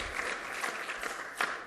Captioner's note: applause